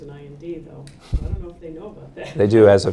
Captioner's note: laughing